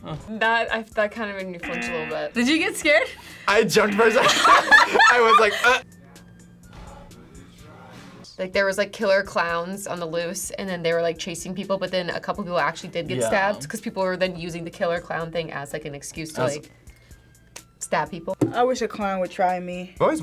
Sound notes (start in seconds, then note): 1.6 buzzer rings; 3.8 both laugh